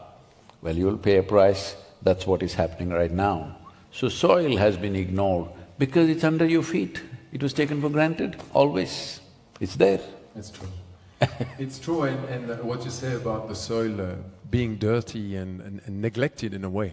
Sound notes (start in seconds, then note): 11.2 Sadhguru laughs